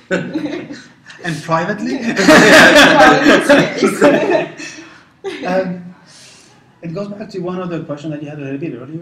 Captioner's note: laugh